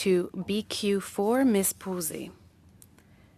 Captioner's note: speaking French